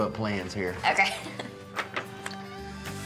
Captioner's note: laughs